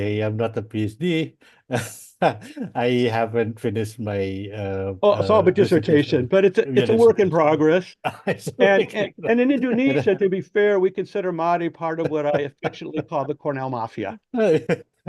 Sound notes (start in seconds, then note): 1.7 laughs; 6.6 made murmurs; 8.0 laughs